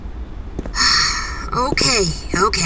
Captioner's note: Ash sighs